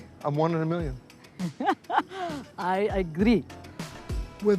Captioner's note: laughs